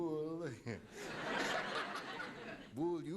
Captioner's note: laughter